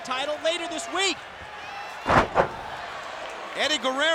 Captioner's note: body thudding